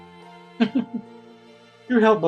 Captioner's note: giggles